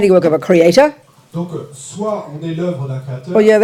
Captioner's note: French